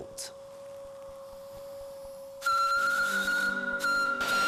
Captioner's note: steam whistling